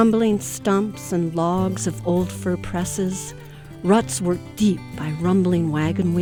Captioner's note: voiceover